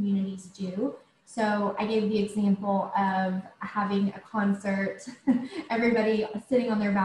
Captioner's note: chuckles